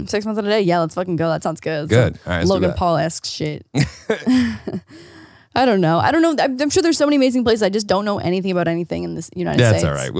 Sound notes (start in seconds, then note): 3.7 both laughing